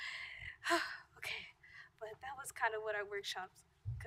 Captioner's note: sigh